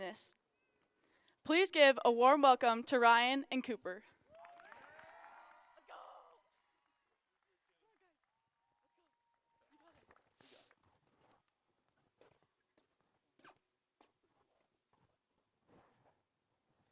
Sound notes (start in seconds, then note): 6.2 applause